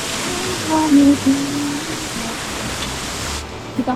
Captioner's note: humming a song instead of saying it